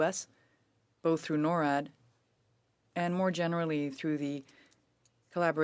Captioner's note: speaking French